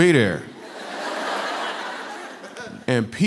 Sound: laughter

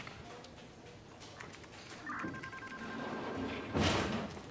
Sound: keyboard clicking; phone ringing; door slamming

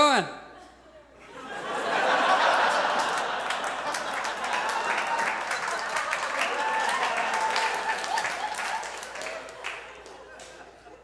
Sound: audience applauds

